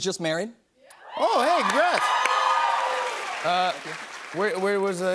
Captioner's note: cheers and applause